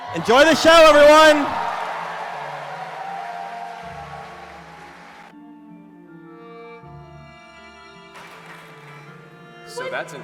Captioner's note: cheering